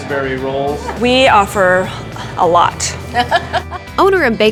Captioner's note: laughing